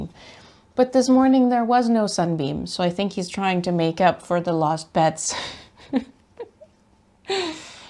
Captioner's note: laughs